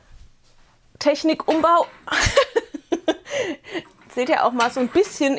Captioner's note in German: Gelächter